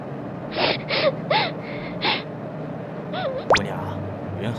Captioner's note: sobbing